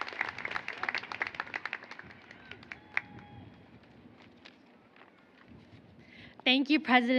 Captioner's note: applause